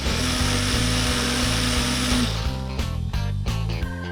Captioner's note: blender whirring